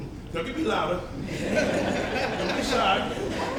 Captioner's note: all laughing